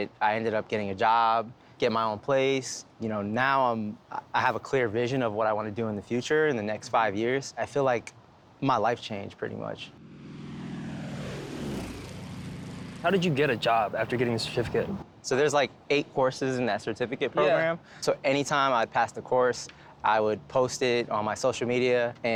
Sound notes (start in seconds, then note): 9.9 airplane sfx